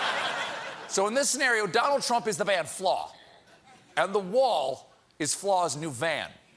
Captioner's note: laughter